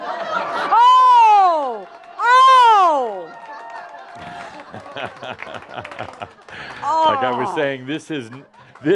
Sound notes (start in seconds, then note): 2.9 audience laughter and applause